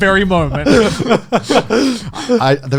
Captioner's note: laughing